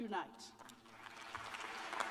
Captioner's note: applause